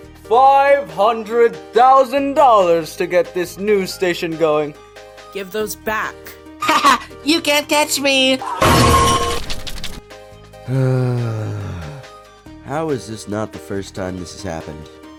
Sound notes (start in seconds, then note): 8.6 really loud running into a metal poll sound; 10.6 sigh